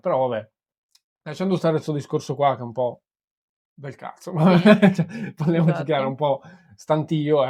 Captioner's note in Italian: risate